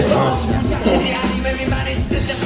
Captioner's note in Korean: 웃음